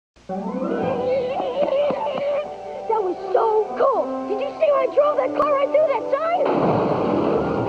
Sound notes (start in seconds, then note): 6.4 car crash